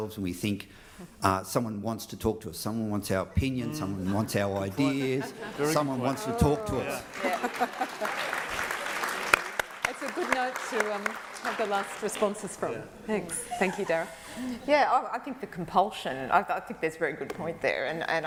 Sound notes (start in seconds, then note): 7.0 applause